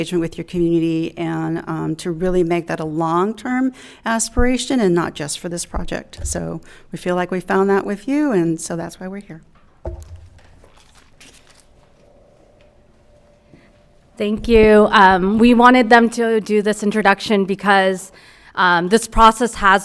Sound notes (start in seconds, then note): none